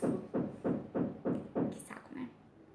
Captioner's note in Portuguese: batidas na parede